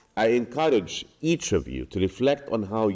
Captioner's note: none